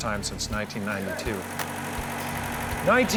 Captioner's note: car engine roaring